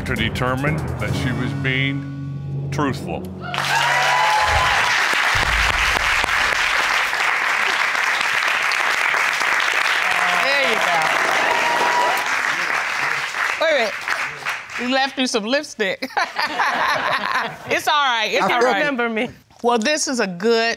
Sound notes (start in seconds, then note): 4.4 audience cheering, applauding; 16.1 laughing